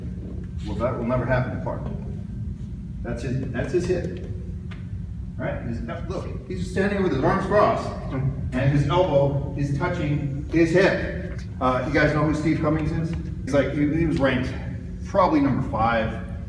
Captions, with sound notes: Where that will never happen to Clark. [tapping bone] That's his hip. Right? Look. He's standing with his arms crossed, and his elbow is touching his hip! You guys know who Steve Cummings is? He's like, he was ranked probably number 5